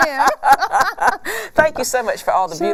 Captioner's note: laughing